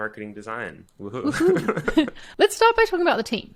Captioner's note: both laugh